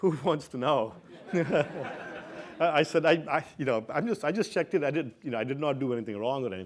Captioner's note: laugh